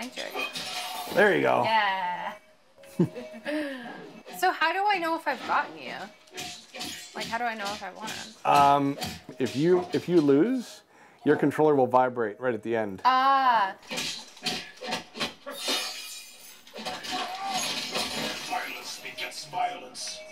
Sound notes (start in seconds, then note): 13.7 fighting noises from game